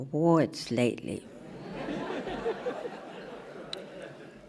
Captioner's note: laughing